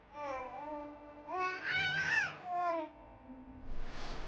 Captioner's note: baby cooing